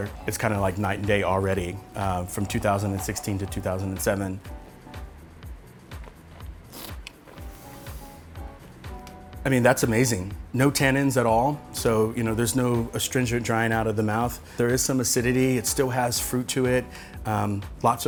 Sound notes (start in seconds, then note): 6.6 slurps